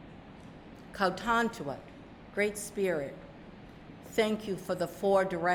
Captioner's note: speaking narragansett